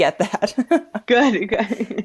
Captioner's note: chuckle